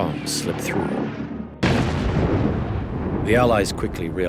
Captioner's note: bomb explodes